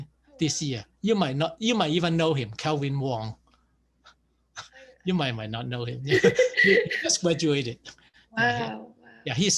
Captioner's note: laughs